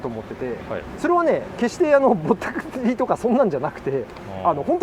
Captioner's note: laughs